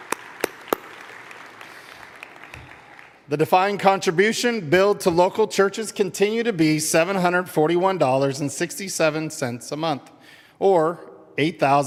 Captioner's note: applause